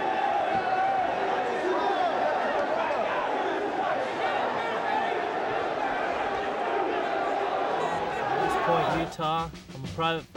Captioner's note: crowd chatter